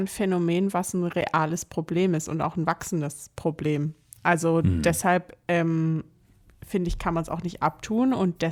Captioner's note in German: räuspern